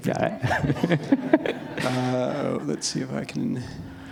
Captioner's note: laughter